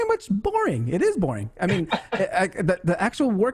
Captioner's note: laughs